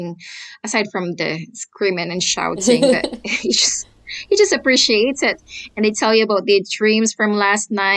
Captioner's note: laughter